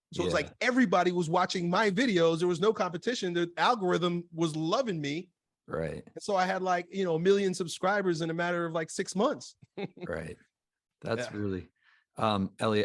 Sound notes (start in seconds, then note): 9.8 laughs